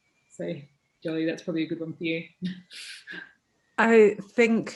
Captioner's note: chuckles